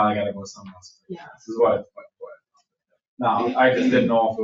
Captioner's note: people chatter distantly